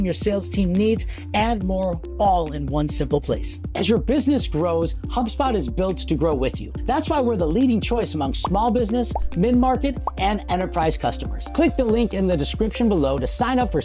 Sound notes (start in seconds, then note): 10.0 bubbles popping